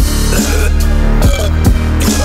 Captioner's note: roboburp; teenage burp